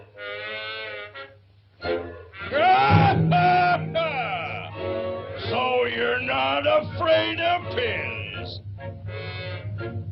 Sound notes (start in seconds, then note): 1.8 plodding music; 2.5 Pin Cushion Man laughs